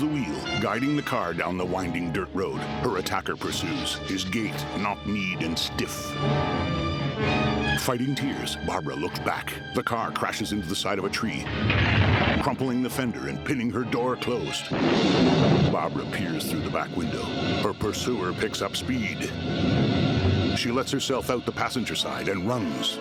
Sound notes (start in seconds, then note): 11.4 crashing; 14.7 thunder striking